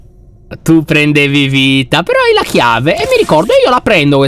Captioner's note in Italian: suono metallico